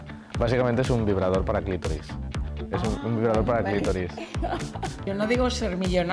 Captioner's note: laughs